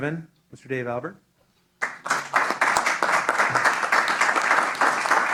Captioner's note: applause